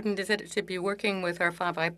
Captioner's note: speaking French